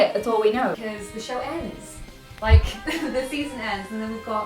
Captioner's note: laughs